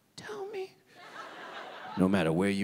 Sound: audience laughing

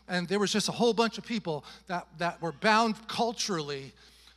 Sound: none

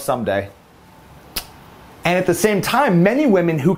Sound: kiss

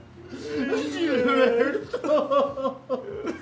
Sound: both crying

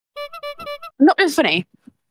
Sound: clown horn

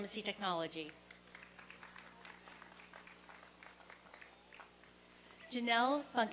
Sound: applause and cheering

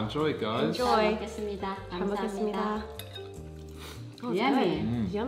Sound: speaking foreign language

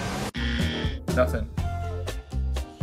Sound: buzzer buzzing

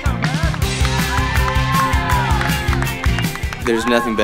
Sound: cheering

